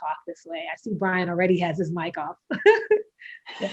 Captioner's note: laughs